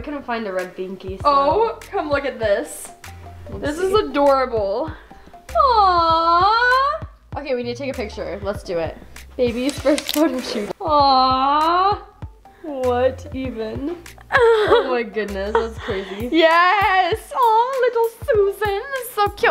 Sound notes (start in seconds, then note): 9.6 camera clicks; 15.4 laughs